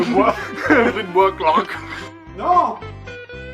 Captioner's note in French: rires